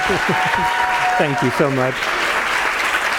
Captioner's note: laugh; applause